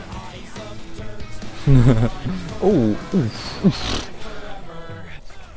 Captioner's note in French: Rire